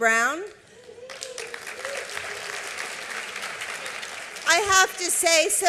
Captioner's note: applause